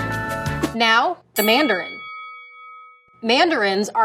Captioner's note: bell dings